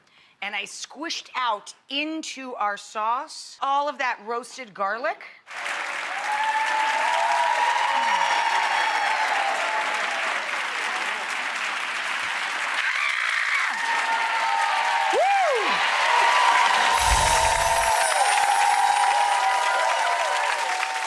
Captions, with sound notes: and I squished out into our sauce all of that roasted garlic. (audience applauds and cheers) (screams) Whew! (audience applauds) (dramatic music)